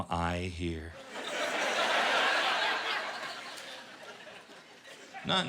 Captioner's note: laughter